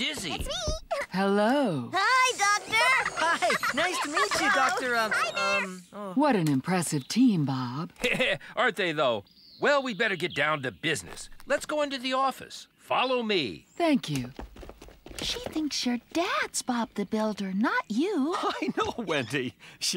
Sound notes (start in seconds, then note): 0.5 chuckles; 15.6 whispering; 18.3 chuckling